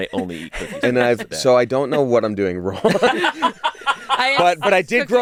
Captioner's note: laughs